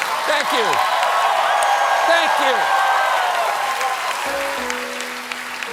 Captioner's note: cheers and applause